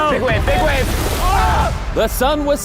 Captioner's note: group exclaims